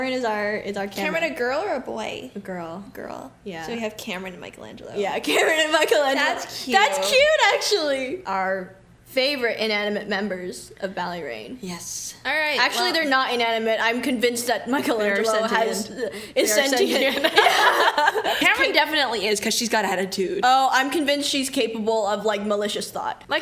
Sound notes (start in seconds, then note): 16.6 laughs